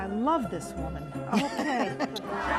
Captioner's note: laughter